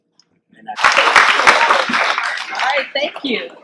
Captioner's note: clapping